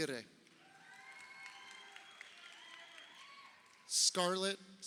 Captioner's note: crowd cheering